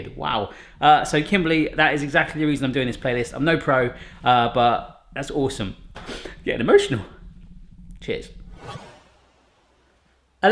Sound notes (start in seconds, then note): 6.0 sniffs; 8.9 whooshing